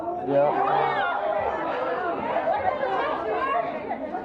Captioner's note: audience boos